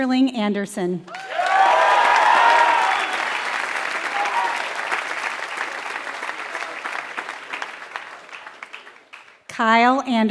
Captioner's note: applause